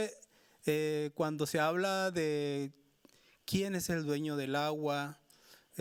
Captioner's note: speaking Spanish continues